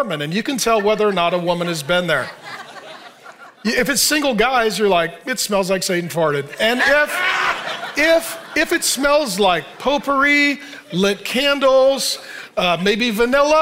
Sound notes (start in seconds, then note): 6.4 audience laughing